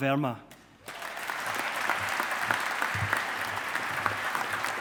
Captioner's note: audience applauding